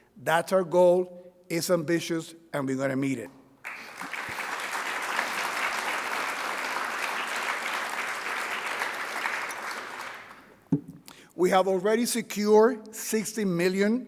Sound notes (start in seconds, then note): 3.6 audience applauding